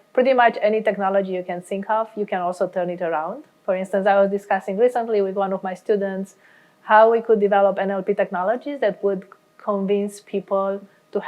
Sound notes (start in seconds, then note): none